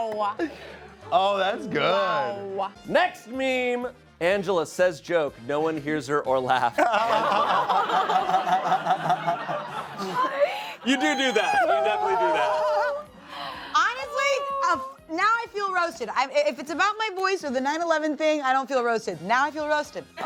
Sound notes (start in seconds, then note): 0.0 prolonged laughter; 6.7 laughter